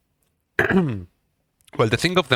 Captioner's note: clears throat